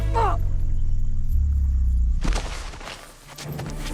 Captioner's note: Eddie yelling; Roland moans